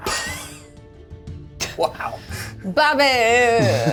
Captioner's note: all laugh